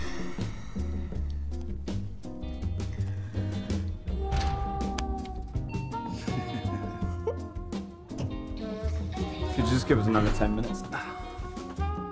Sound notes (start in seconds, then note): 5.3 ding; 6.1 laughter; 11.9 cursing in French